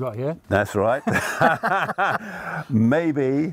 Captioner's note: both laughing